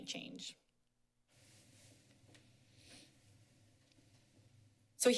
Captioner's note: pause